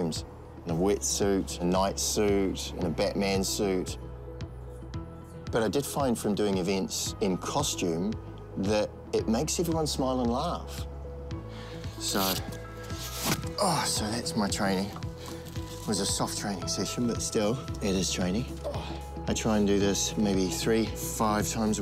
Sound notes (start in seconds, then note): 12.8 velcro rips; 12.9 groans